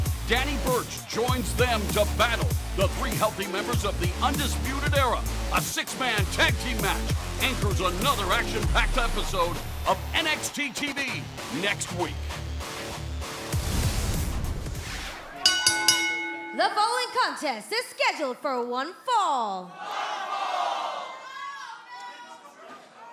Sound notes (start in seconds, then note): 15.4 bell ringing